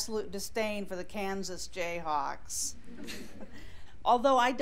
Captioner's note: scattered laughter